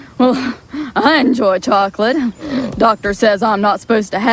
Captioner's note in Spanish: respirando pesadamente